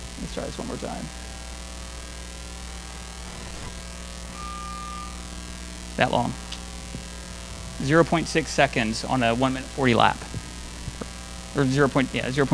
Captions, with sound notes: Let's try this one more time. (beep) That long. 0.6 seconds on a one minute 40 lap, or 0.7.